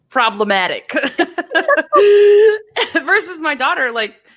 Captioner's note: laughter